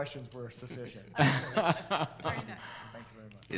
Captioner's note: laughs